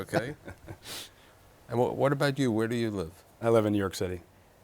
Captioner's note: laughs